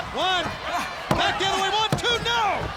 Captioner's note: hand thudding